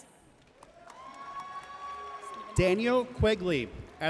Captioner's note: audience cheering and applauding